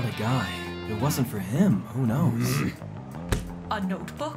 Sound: Dmitry grunts angrily

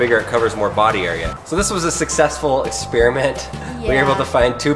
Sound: laughs

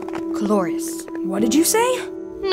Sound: whispering

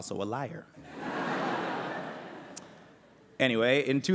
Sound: laughter

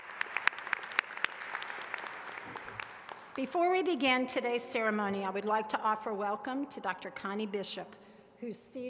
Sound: applause

